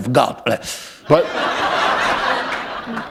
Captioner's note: laughter